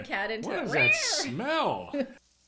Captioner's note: imitates cat noise